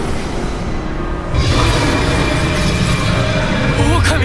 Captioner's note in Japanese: 咆哮